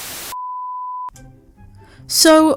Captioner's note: static